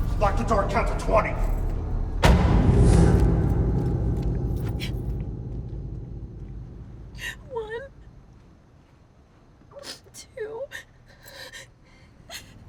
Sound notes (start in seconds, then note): 4.7 Candace crying